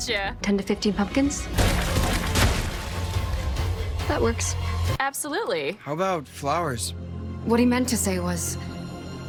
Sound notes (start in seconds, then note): 1.3 gunfire; 1.5 pumpkins burst